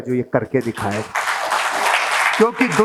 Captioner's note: rounds of applause